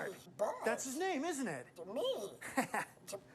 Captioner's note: laughs